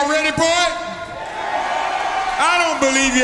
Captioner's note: audience cheers